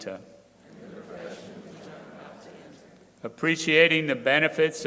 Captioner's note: crowd repeating